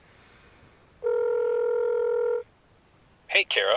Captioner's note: line ringing